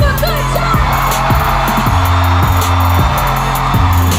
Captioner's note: audience cheering